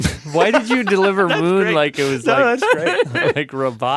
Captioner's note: laughs